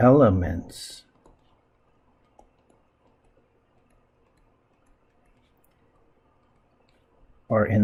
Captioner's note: writing Sounds